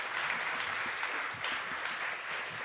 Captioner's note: applause